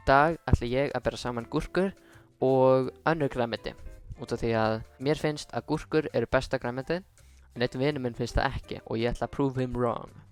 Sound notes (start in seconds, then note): none